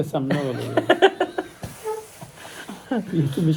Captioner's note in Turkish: kahkaha; boğazını temizler